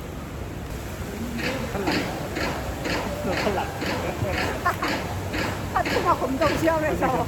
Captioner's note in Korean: ㅋㅋ